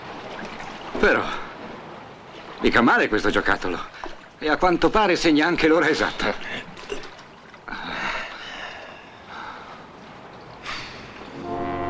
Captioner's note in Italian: sospiri